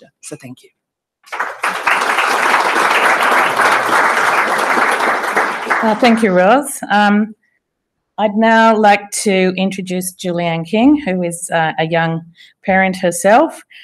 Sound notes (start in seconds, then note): 1.2 applause